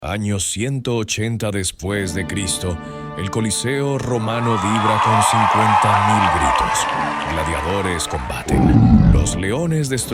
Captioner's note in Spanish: ovación